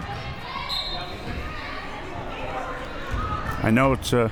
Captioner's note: whistle